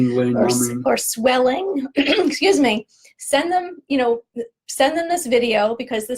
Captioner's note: coughs